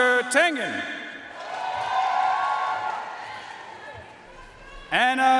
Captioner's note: audience cheering and applauding